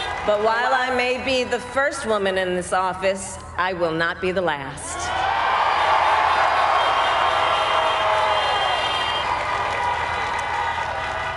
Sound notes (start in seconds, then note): 5.1 crowd applauds